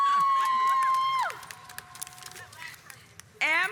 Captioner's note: cheers